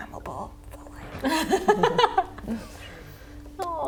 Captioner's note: laughs